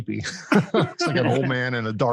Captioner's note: men laugh